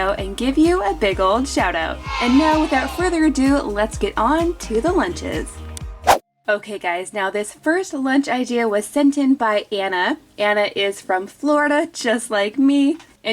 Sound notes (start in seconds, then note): 1.9 children cheering